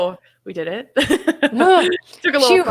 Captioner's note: laughs loudly